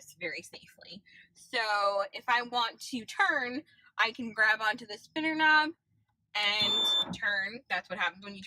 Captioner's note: beeping noise